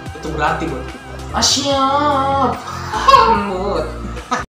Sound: ahahaha

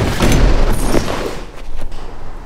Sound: door slams open; glass cracks

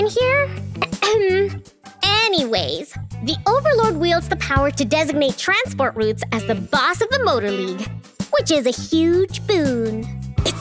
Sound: ahem

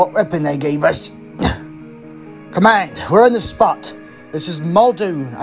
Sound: grunts

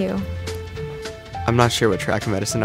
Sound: voiceover

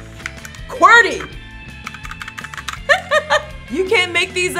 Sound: keys typing; chuckling

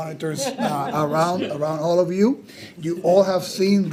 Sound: attendees chuckle

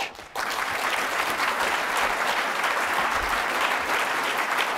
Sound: applause

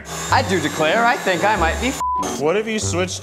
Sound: beep

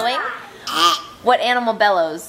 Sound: imitates burp

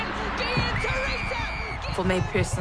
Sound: whistle blowing

